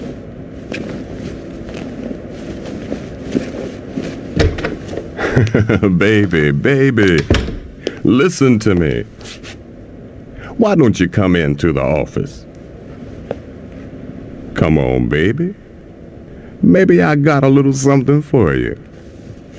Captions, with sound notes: Rufus *Hahahah* Baby, BABY, listen to me. Why don't you come into the office Rufus Come on baby? Maybe I got a little something for you